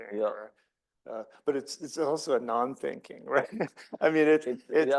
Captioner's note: laughs